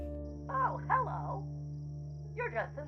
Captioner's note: on TV, Cartoon Voice